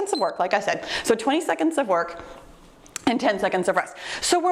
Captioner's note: timer beeps